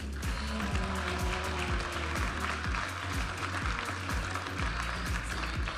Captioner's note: audience applauding and cheering